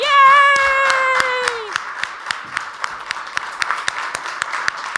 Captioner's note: audience applauds